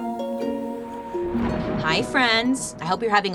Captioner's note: thunder booming